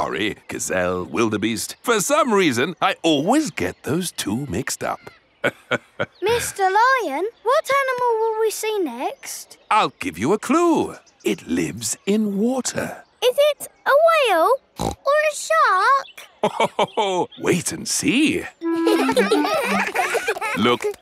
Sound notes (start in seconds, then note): 5.4 laughs; 14.8 snorts; 18.6 children laughing; 18.6 laughs